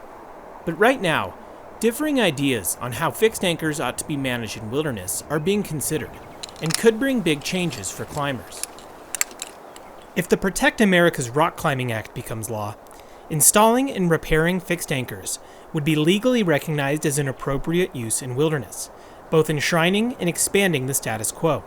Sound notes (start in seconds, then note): 8.8 gear clanging